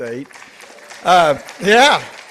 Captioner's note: participants applauding